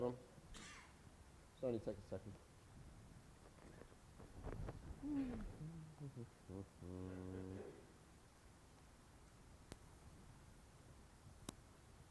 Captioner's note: humming